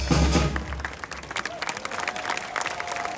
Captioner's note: applause